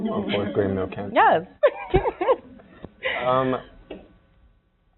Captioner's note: laughing